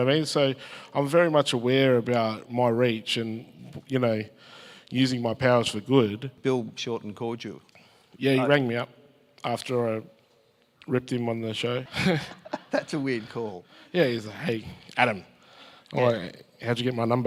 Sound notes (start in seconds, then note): 11.8 laughs